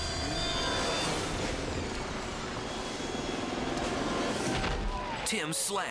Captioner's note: helicopter droning